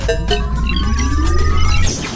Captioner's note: buttons beeping; machine whirring